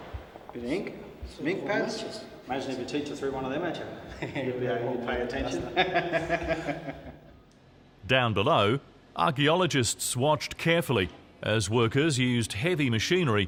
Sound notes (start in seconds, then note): 5.2 laugh